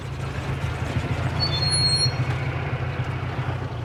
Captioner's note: brakes squeak